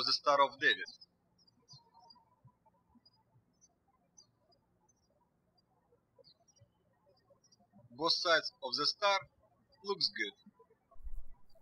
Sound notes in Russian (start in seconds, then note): 2.2 птички щебечут